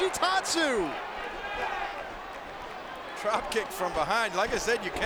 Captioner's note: applause